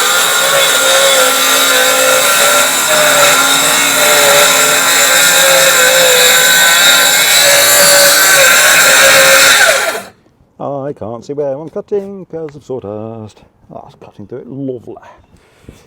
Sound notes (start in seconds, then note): 3.6 sawing